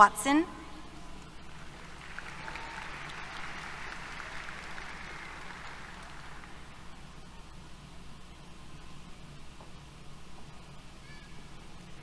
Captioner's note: applause